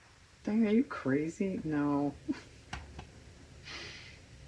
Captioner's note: laughs